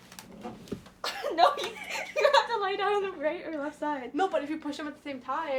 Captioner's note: laughs